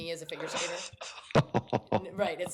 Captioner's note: laughs